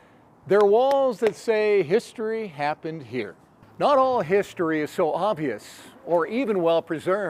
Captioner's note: hands tapping